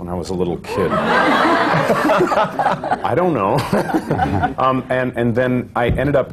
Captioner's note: laughter